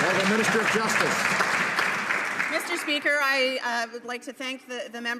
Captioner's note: some Applause